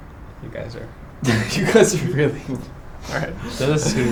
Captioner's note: bursts out laughing